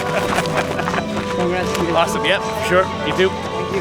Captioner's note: laughing